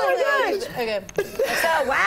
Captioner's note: laughter